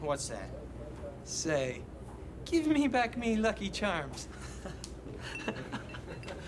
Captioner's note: laughs